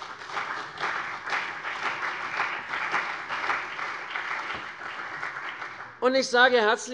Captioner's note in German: Beifall CDU und BÜNDNIS 90/DIE GRÜNEN